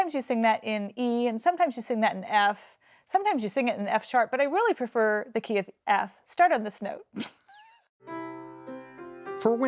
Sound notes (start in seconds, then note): 8.0 plays gentle piano music; 8.2 laughs